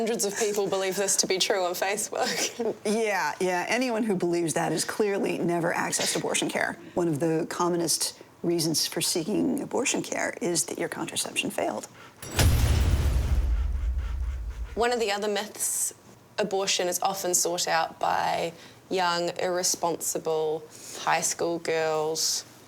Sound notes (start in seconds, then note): 2.7 laughs; 12.2 metal clanging; 12.2 metal thudding